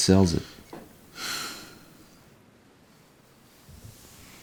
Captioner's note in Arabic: تنهدات